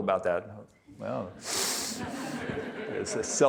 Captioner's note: audience laughing